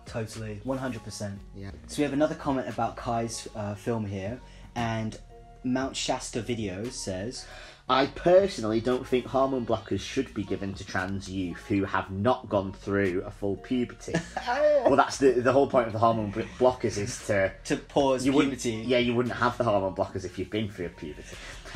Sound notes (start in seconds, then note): 14.2 despairs